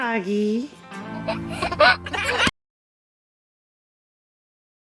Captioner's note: laughter